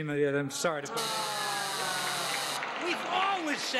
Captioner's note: buzzer